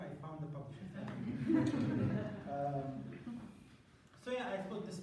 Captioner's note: laughter